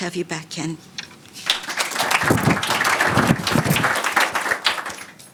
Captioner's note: audience applauding; mic whooshing; audience applauding